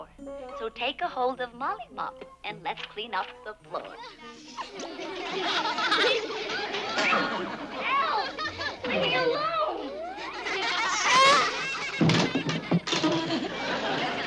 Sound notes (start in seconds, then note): 4.0 children's laughter; 5.7 banging; 7.7 on TV; 10.0 children's laughter; 11.8 banging